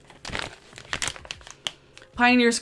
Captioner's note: paper rustling